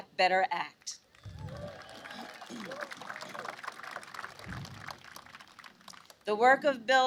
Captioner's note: applause